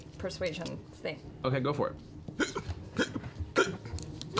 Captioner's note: hiccups